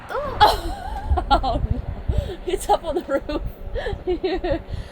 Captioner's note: laughs